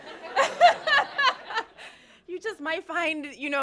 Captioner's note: laughter